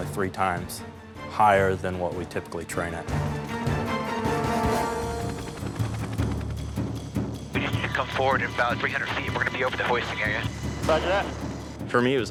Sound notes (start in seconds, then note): 3.5 dramatic music; 3.5 helicopter blades thudding